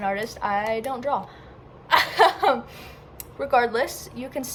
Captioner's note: laughing at my drawing